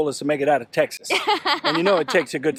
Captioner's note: laughs